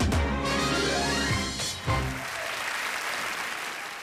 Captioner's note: applause